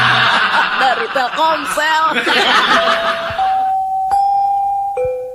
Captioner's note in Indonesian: tertawa